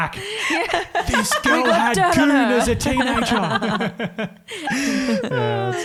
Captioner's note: laughs